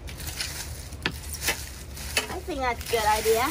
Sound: leaves rustling

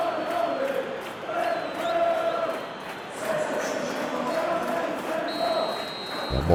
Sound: applause

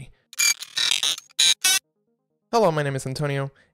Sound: record scratching

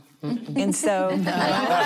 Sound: laughing

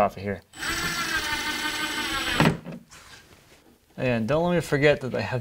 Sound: drill whirring

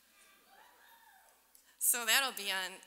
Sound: audience cheering

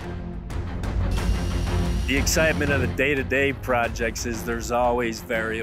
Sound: saw whirling

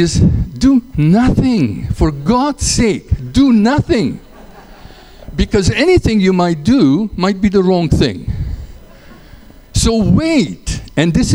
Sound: laughter

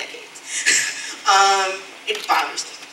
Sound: chuckles

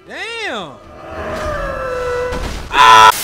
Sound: Nightjar Ninja shrieks; yells; static

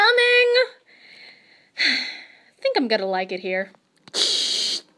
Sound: sigh; static

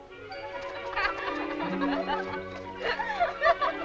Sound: girls laughing

